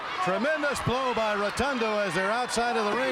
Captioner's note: crowd chatter